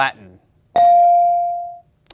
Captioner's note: ding chimes